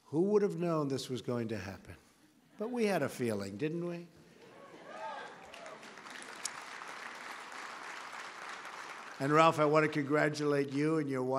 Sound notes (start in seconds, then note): 4.9 applause